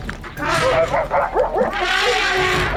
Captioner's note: Mary trumpeting; dogs barking